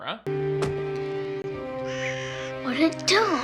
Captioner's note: eerie music; bird cawing